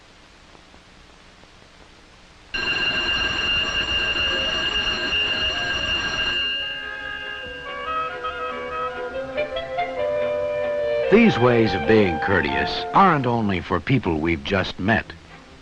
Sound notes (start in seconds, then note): 2.5 bell ringing